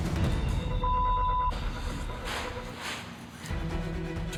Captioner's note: exhales forcefully